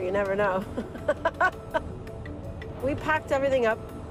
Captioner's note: laughing